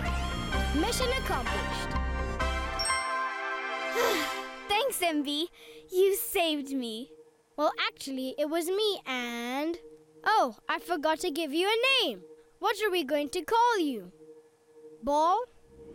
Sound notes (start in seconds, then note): 1.7 upbeat music; 3.9 sighs